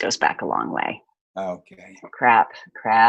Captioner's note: laughs